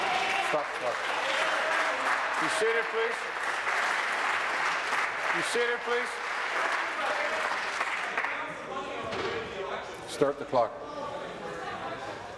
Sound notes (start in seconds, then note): 4.0 applause